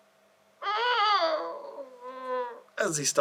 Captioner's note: groan